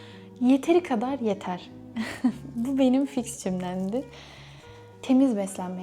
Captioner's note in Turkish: kahkaha